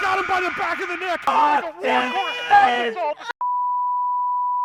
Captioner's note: screaming